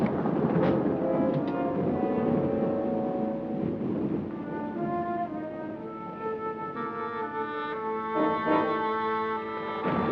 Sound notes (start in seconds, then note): 0.0 thunder rumbling